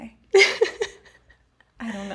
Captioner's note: laughs